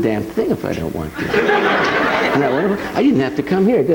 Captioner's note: audience laughing